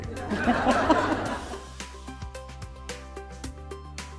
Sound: laughter

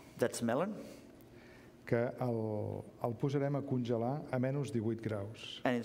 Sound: speaking catalan

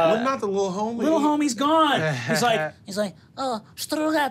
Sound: murmurs

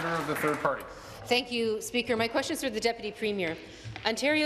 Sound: applause

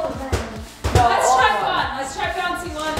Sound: ball bouncing

